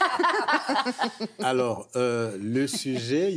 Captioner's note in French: rires